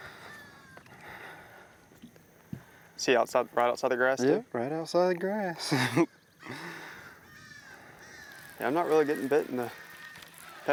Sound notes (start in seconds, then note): 5.6 laughs